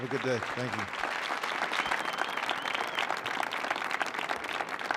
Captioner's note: audience applauding